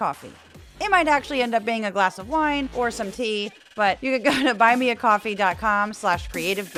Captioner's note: laugh